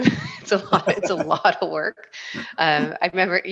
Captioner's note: both laughing